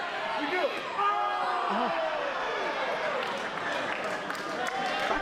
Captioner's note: crowd cheering